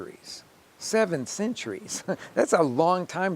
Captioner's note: chuckling